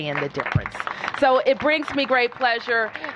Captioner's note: applause